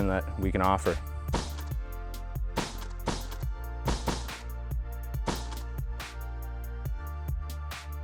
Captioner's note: gun shots